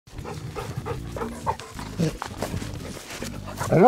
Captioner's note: dog panting